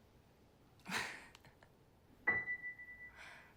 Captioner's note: laughs